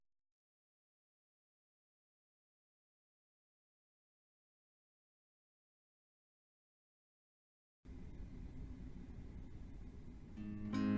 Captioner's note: silence